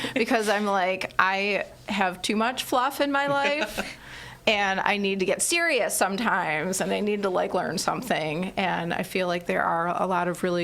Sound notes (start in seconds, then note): 3.3 laughs